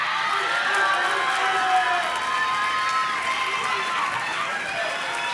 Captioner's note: audience cheers and claps